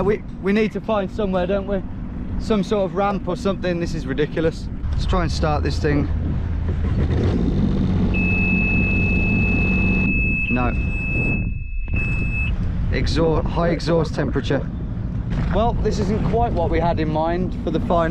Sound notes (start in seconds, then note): 8.0 jet-ski engine thrumming; 8.1 jet-ski beeping